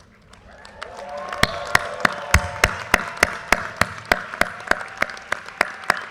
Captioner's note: audience cheers and applause